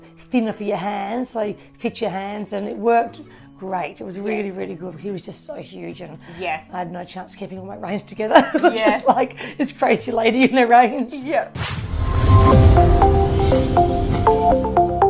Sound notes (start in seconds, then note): 8.3 laughs; 11.5 outro music